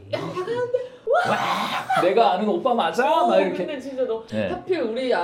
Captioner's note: auto-Screaming